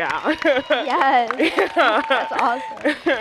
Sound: applause

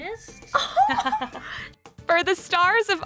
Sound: giggles

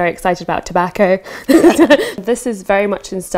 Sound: laughter

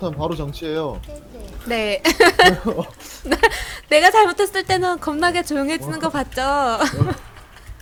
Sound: laugh

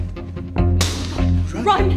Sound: gunshot

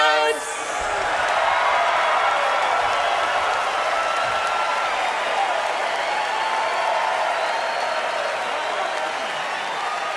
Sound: audience cheering

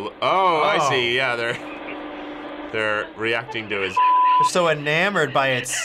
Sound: chuckles

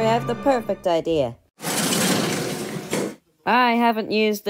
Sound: garage Door Opens

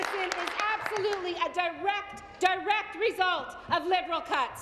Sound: applause

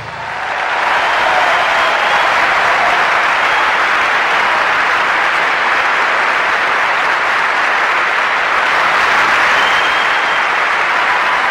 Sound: applause

